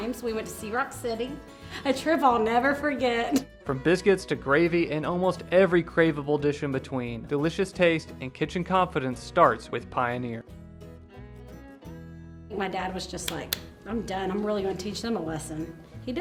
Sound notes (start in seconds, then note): 13.5 clapping